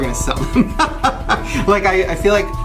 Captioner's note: Shane laughing